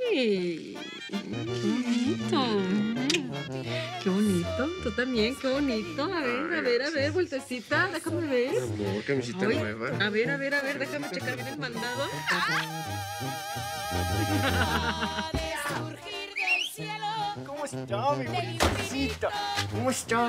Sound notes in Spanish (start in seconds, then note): 14.2 Risas; 16.2 Silbido